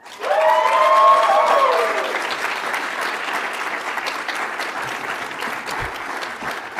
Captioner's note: audience applauds; audience cheers